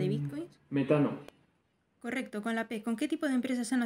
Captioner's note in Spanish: Voz en off